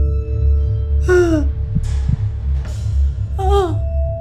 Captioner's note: mother gasps; mother moaning